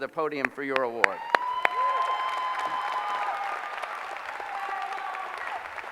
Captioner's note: applause